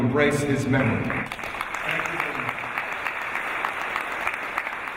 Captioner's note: applause